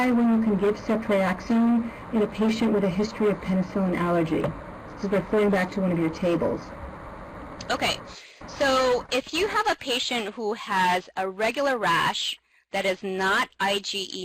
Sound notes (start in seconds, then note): 6.0 voiceover